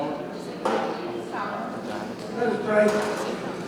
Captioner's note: attendees chattering